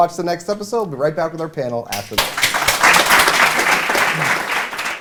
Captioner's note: applause